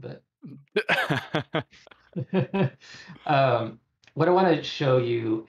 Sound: laughter

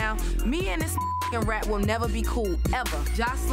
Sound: beep

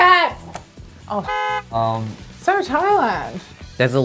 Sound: beep

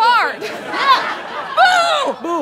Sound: audience laughter

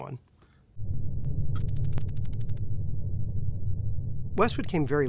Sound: electronic typing

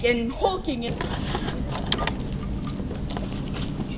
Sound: papers shuffling

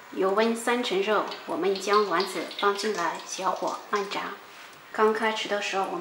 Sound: small fire

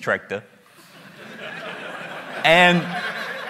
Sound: laughter

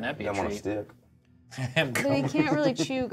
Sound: co-hosts laughing

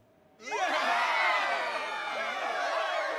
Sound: cheering

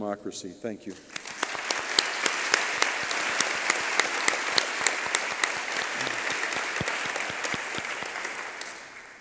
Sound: applause

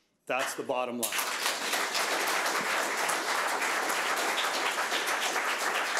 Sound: audience applauding

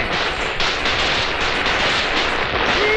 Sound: crackers Sound

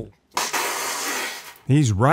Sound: sputters; water splatters

